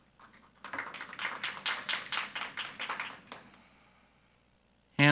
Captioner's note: audience applauding